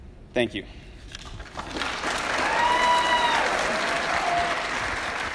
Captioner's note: loud applause and cheers